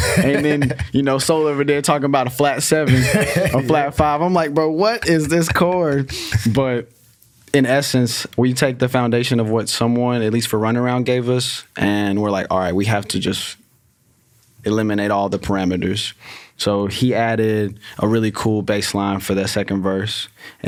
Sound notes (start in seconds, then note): 0.0 laughs; 2.9 laughs